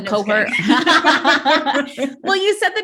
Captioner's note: both chuckling